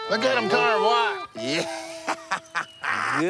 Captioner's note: laughing